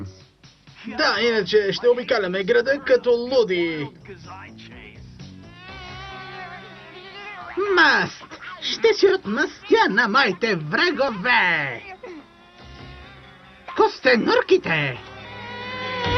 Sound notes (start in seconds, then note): 4.9 buzzing